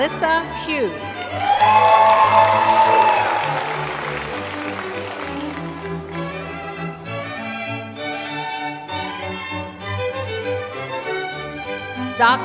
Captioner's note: applause and music